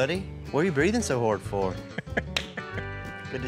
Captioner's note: chuckles